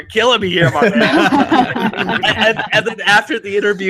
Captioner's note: everyone laughs